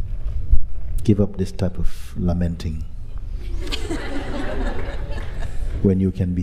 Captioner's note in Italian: risate